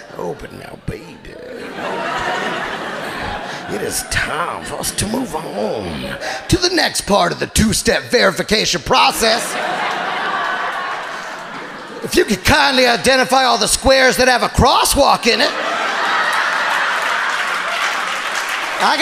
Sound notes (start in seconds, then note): 9.3 audience laughing; 15.6 audience laughing and applauding